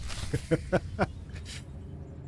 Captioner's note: laughs